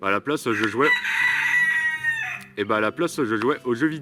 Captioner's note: rooster Cries